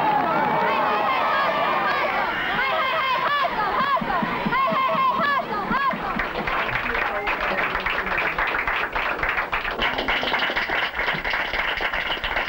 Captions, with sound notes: Hey hey hey hustle hustle! Hey hey hey hustle hustle! (clapping)